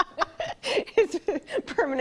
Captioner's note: laughter